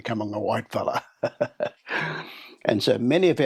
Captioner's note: laughs